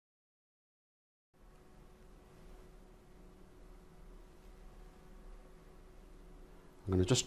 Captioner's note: silence